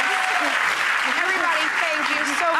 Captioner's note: applause